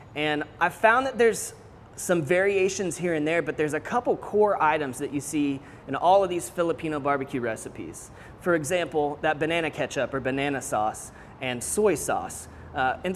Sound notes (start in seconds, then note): none